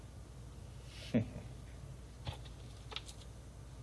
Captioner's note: laughs